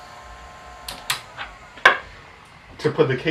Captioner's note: power button makes a satisfying clunk